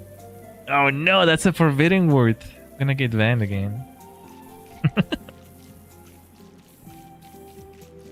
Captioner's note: laughter